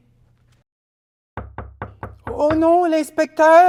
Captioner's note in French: On frappe à la porte